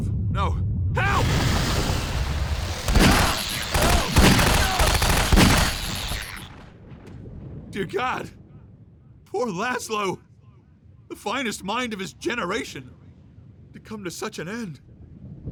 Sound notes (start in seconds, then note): 2.6 loud gunfire; 2.8 monsters shrieking